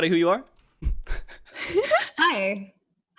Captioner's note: laughs